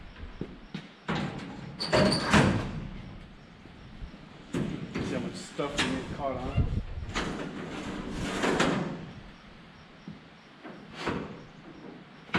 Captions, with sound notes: (metal clanking) There's so much stuff you can get caught on. (metal clanking)